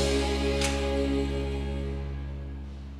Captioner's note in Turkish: Kapı açıldı